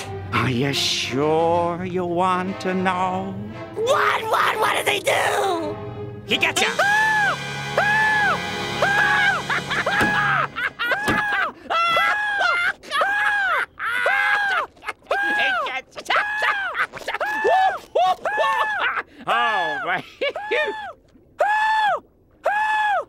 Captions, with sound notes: Are you sure you want to know? What? What? What did they do? He got you! [screaming] [screaming] [laughing] [screaming] [laughing] Oh right. [laughing] [screaming]